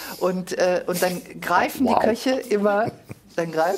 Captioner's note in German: Lachen